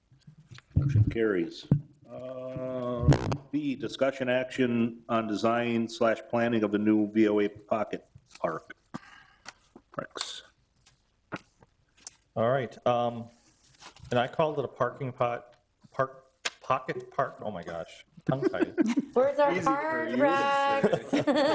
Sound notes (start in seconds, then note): 15.1 stammering